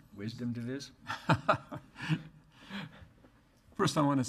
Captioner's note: laughing